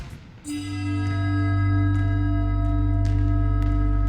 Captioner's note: bell chimes